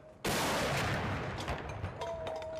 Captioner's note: gunshots